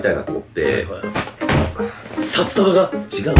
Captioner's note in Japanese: ドン